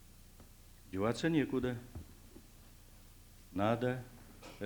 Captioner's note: non-english speech